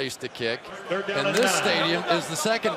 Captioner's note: pa announcement